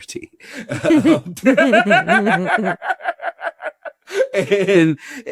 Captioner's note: everyone laughing